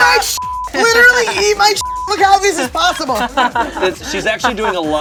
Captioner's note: beep; laughing